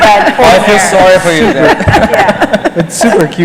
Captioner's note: laughter